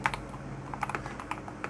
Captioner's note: keypad Clicking